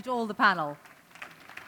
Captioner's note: applause